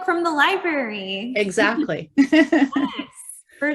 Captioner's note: both chuckling